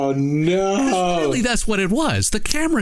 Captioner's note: speaking faintly